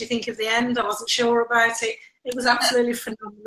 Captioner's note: laughs